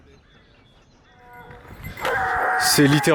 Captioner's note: barking